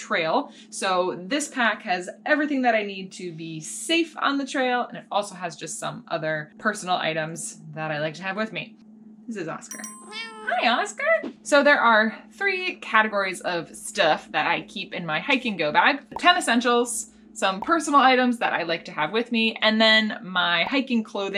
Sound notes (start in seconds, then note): 9.7 dings; 10.0 meows